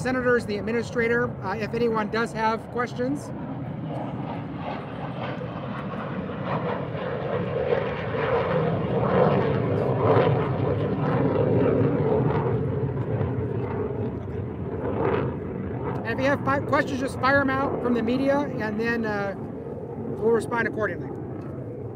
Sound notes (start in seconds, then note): 6.5 airplane engine; 21.7 airplane engine